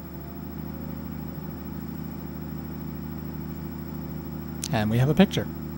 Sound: laser begins tracking

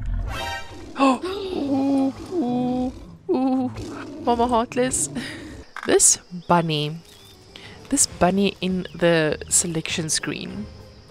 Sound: scared noises

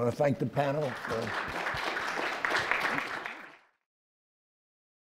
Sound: audience applause

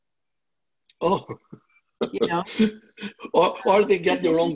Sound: laughs

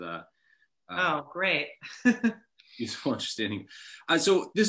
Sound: chuckles

